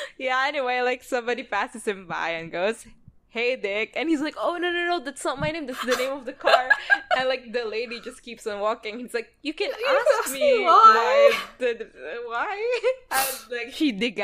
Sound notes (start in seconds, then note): 6.4 laughs